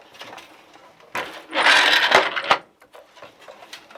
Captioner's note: noise of shuttle moving